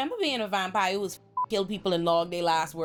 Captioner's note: beep